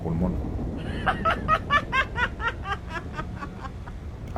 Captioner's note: woman laughs